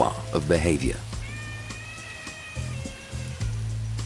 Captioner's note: elephant trumpeting